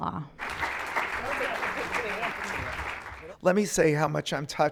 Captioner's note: clapping